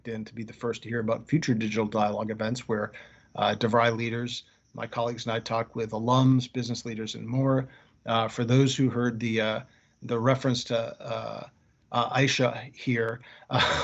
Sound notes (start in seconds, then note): 13.5 laughing